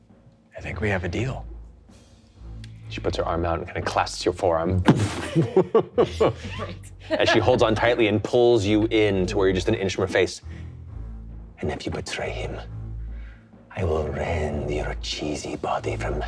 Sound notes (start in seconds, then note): 4.8 imitates meat thudding; 5.0 laughing